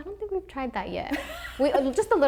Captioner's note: laughter